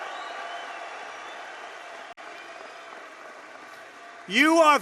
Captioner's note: applause